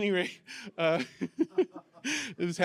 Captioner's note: laughter